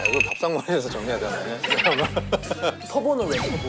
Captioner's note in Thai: กำลังขำด้วยใบหน้า